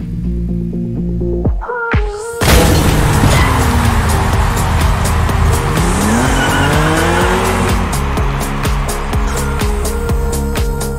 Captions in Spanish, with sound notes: [Se rompe cristal] Del 25 de marzo al 9 de abril